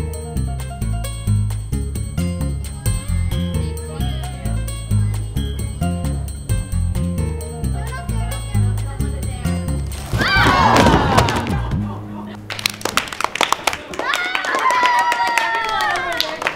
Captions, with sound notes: - 21... 22... 23... Get it up there. Don't let it down. (surprised shouts) (applause) (cheering)